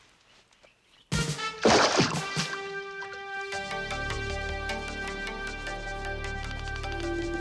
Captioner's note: upbeat music; water splashing